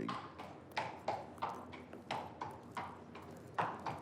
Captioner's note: hooves clopping